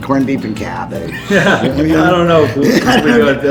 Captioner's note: laughing